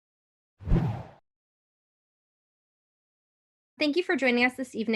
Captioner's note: logo whooshes